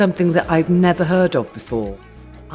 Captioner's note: none